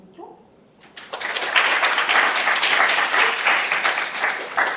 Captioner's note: crowd claps